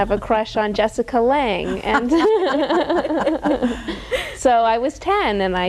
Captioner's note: all laughing